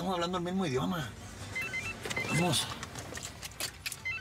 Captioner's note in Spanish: suena celular